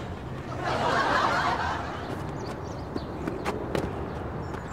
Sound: audience laughs

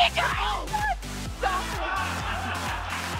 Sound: laughing

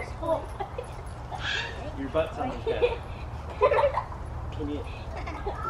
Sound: laughing

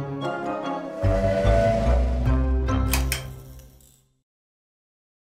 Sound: train whistle blowing

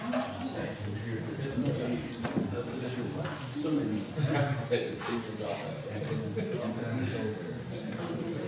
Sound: general hubbub

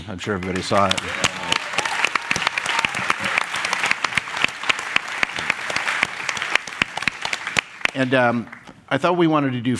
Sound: applause

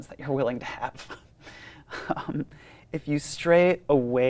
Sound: laughs

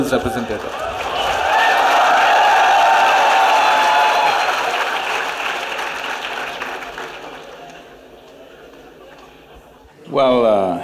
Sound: cheers/Applause

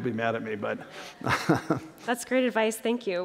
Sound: laughter

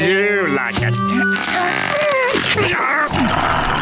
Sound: grunting

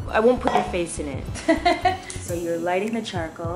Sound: laughs

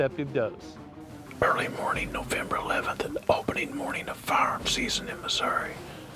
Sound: whispering

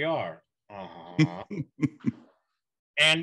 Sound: laughs

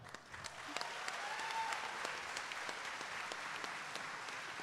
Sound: audience applauding

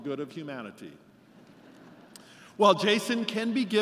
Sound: laughter

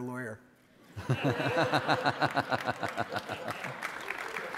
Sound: audience laughing; audience applauding

